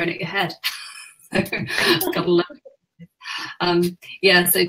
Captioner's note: laughs